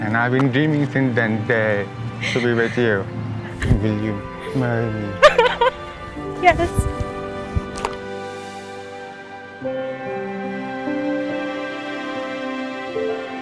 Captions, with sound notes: and I've been dreaming since that day, to be with you. Will you marry me? - (sobs) Yes! (soft tranquil music)